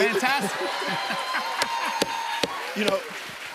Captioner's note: cheers and applause